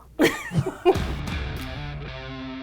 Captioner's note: laughing; upbeat music